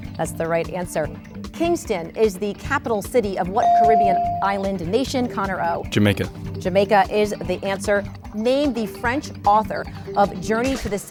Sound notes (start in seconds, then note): 3.6 bell dings